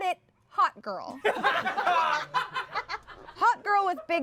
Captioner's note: everyone laughs